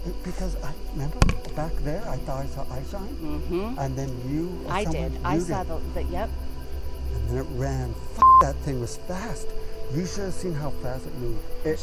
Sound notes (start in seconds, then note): 8.2 beep